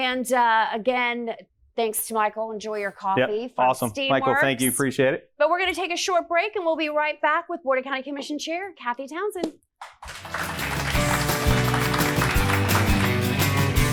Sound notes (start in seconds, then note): 9.8 audience applauds; 11.8 upbeat music